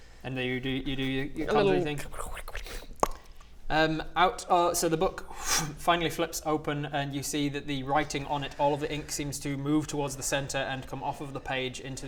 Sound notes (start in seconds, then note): 3.0 pop!